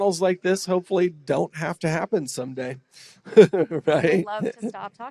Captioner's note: laughs